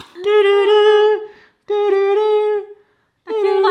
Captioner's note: hums